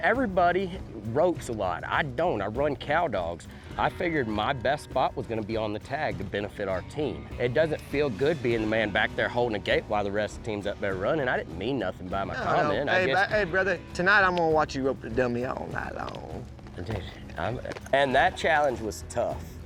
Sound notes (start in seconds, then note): none